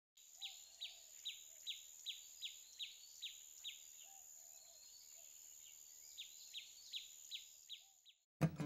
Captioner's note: bird chirping